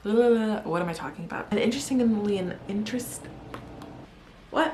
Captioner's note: pop pop